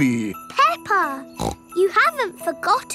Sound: snorts

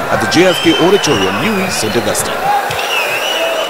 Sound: wild applause and cheering for 22 seconds

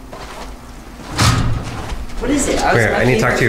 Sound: door clanging

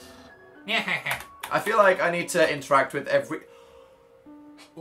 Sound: gasps

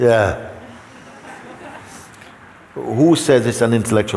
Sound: laughter

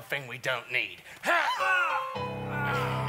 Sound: VON NAZI screams

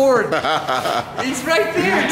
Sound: laughing

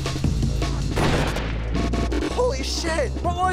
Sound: gun slams tractor; gun shot

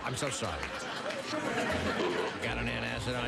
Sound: burp

